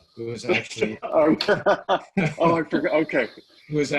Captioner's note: laughing